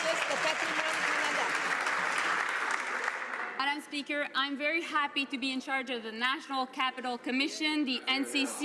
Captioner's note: some Applause